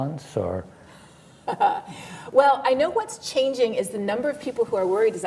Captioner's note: laughs